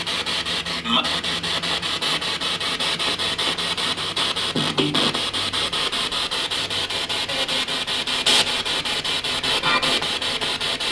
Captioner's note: radio noise from the spirit box